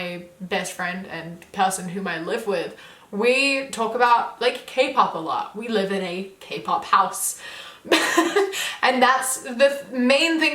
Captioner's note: laughs